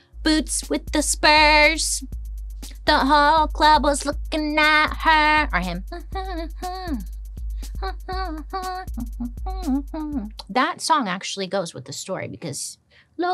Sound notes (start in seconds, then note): 6.4 upbeat music; 6.4 vocalizing